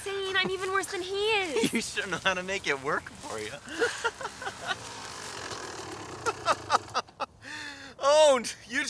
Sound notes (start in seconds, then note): 4.2 bike whirring